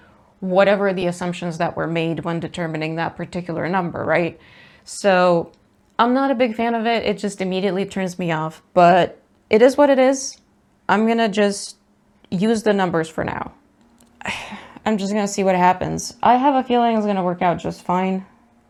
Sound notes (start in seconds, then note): 14.2 sighs